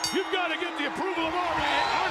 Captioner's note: bell ringing